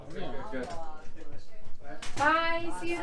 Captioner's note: chatter